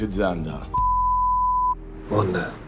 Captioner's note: tone